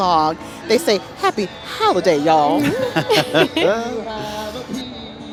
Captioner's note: laughing